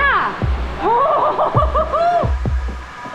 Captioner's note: laughs